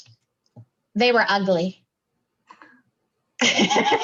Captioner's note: laughs